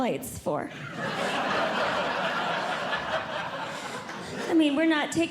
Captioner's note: audience Laughing